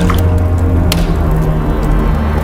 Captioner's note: flames crackling